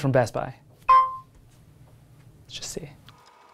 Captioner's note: pin beeping